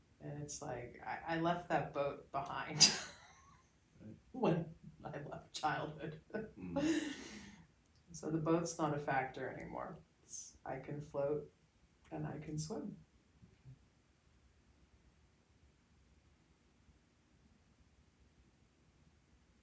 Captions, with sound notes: And it's like I left that boat behind. (laughs) - Right. - When I left childhood. (laughs) And so the boats not a factor anymore. I can float and I can swim.